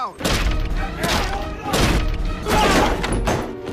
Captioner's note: banging carl house door